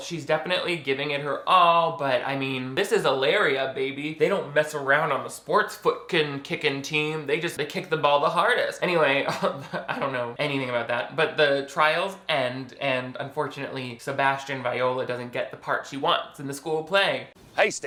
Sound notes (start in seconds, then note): 9.2 chuckles